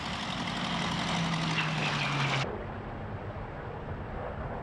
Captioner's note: plane roaring